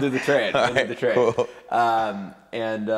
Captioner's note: laughing